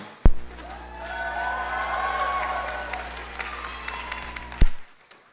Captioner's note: cheering